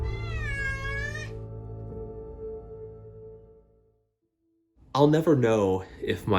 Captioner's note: cat meows; music calms